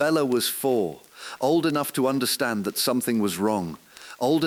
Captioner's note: exhale; voice trembling